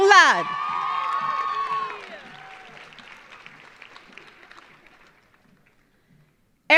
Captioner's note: audience cheering; audience applauding